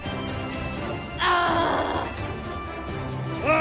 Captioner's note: shouting; adventurous Music